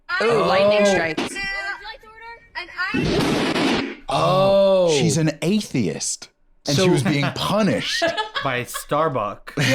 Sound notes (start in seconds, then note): 3.4 crashing